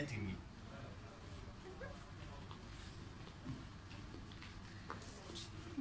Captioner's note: walks in high heels